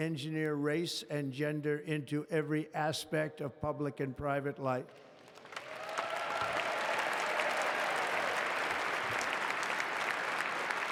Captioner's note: applause